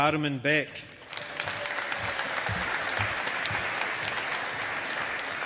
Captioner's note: audience applauding